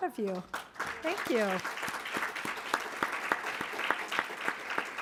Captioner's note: audience applauding